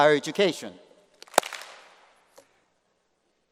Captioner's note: applause